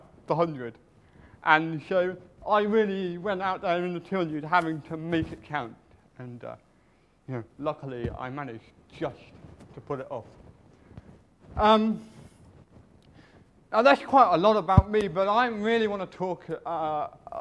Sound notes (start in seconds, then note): none